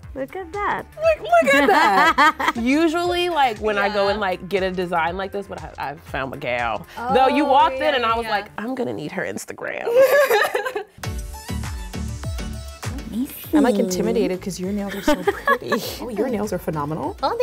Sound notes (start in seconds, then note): 1.3 laughs; 9.9 bouncy music